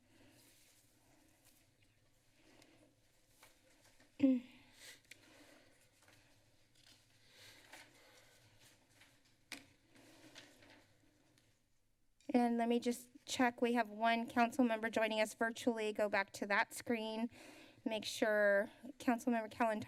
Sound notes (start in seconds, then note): 3.9 pause; 4.4 breathing